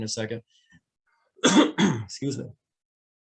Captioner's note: clears throat